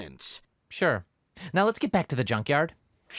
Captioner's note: flatly